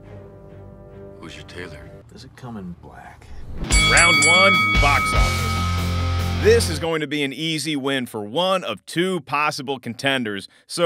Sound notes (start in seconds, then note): 3.6 bell clangs